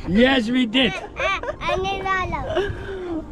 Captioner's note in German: plaudert; lacht